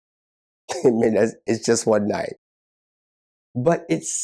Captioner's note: chuckles